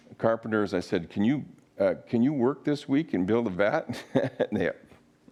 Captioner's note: laughs